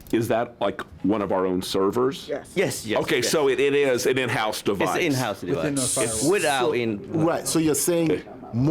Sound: laughter

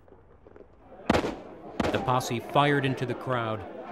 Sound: gunshots

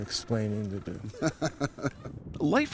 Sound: laughter

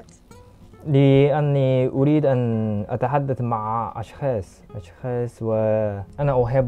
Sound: Arabic

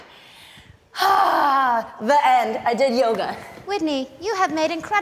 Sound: exhales loudly

